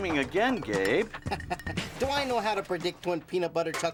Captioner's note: laughs